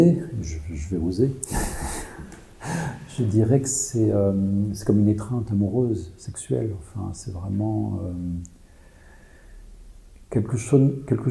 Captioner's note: laughs